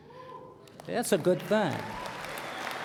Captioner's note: cheering